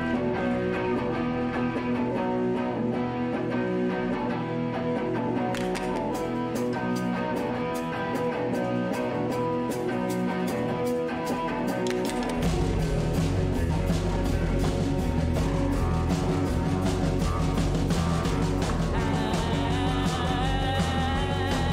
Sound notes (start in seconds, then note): 5.5 clap, clap; 8.1 electric guitar rock music; 11.2 clap, clap; 12.8 percussion joins in